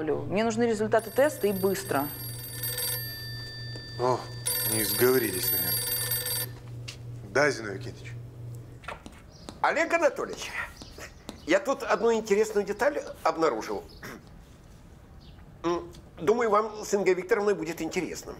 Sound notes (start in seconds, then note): 0.9 phone rings